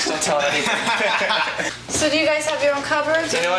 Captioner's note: all laugh